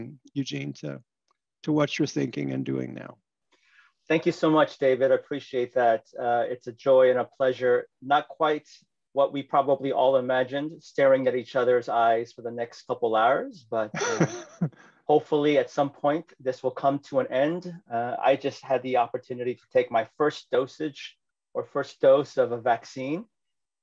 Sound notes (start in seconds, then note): 13.9 laughter